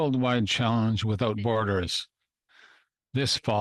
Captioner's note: speaking French